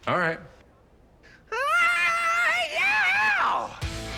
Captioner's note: rock yells